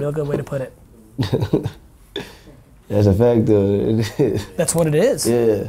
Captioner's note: laughs